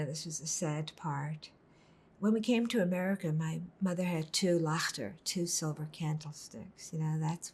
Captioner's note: hebrew